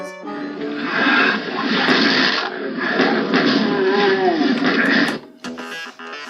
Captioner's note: DOOM Sounds